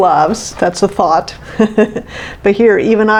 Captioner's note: chuckles